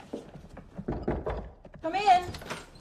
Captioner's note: knocking